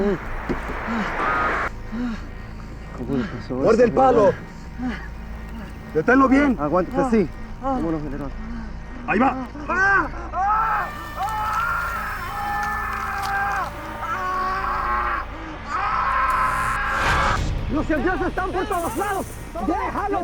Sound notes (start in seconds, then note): 10.5 man screaming; 17.5 shouting in spanish